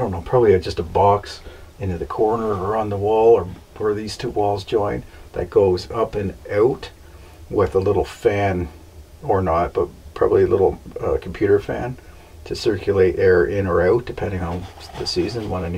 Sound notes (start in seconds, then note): none